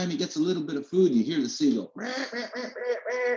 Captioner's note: squawking